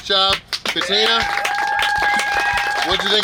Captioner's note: clapping & Cheering